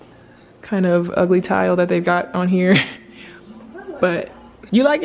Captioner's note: laughs